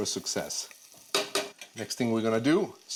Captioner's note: sizzling; tapping pot